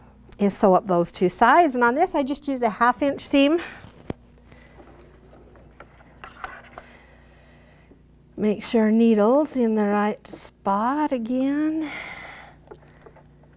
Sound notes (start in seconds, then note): none